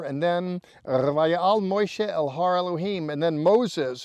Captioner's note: speaking in Hebrew